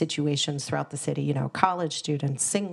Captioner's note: none